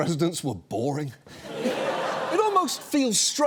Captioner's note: audience laughs